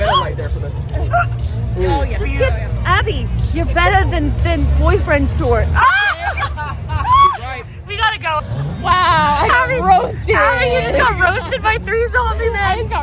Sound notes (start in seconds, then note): 5.9 all laughing